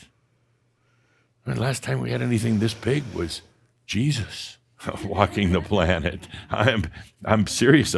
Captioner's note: some chuckles